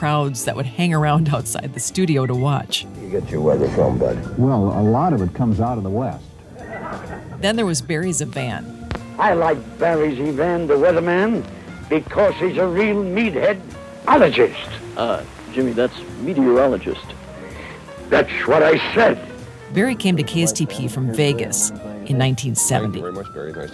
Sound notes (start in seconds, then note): 6.6 crowd laughing